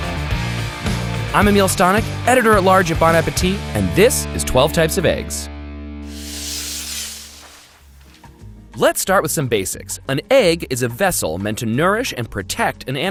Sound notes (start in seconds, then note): 6.0 paper whooshing